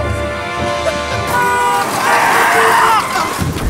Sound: triumphant music; El Camino honking; car tires screeching

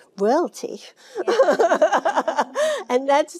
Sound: Jane laughing

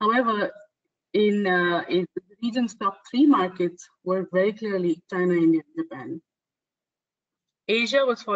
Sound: audio static

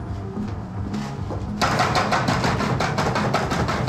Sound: banging on door

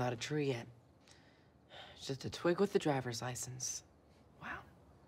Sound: sighs

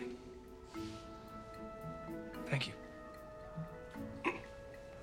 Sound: clears Throat

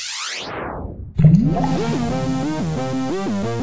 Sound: fizzing; bubbling; synth; cosmic music

